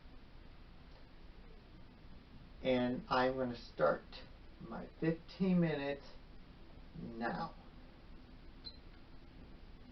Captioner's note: beep of stop watch